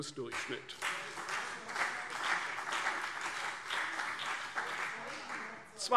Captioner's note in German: Beifall CDU und BÜNDNIS 90/DIE GRÜNEN - Zuruf SPD